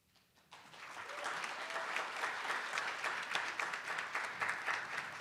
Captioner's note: attendees applauding